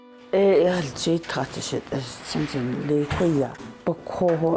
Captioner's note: speaks foreign